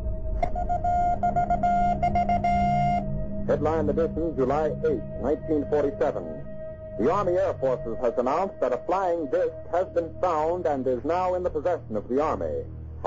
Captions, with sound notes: (telegraph beeping Morse code) - [Radio Announcer] Headline Edition July 8th, 1947. The Army Air Force has announced that a flying disc has been found and is now in the possession of the Army.